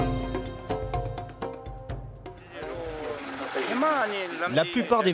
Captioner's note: dzongkha spoken audio